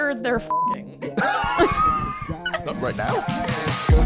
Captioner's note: laughs